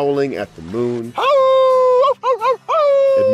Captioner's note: howling